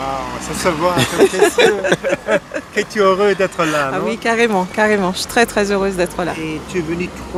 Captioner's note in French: rires